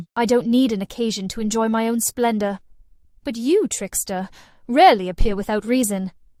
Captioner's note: none